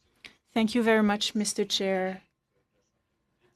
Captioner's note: speaking French